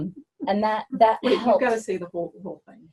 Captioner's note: laughs